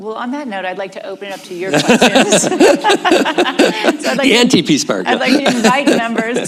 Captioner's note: laughter